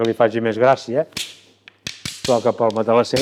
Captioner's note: sticks clapping